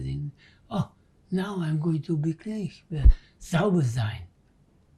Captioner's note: german